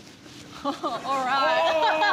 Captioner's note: chuckles